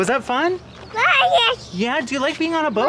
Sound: speaking gibberish

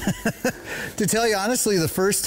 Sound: laughs

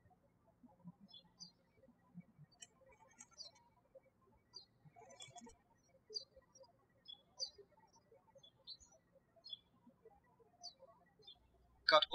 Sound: birds chirping

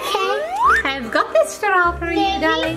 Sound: audio whistles

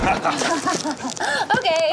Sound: both laugh

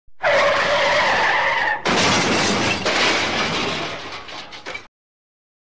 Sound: car crash

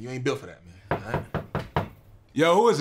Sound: knocking

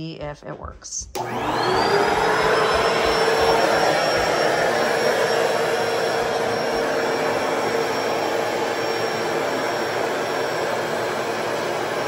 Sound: cleaner running but not spraying

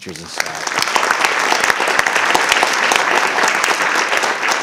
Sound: audience applauding

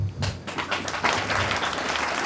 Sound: applauding

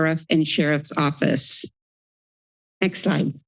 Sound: silence

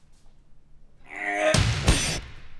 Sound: sort of a disgusting grunt

